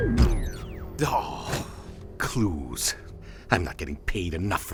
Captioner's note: sighs